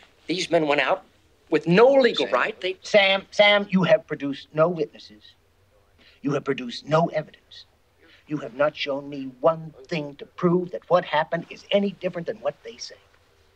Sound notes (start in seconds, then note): none